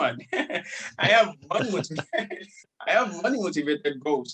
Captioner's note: laughs